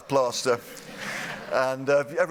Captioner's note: laughter